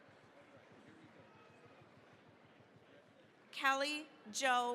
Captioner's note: applause